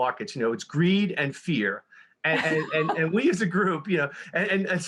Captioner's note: laughs